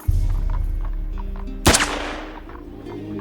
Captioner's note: gun firing; gentle orchestral music